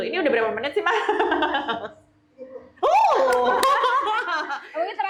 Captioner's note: laughs